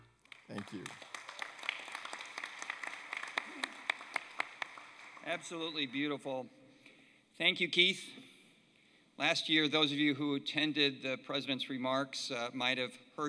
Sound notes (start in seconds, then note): 3.2 applause